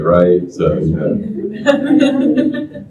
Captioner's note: laughter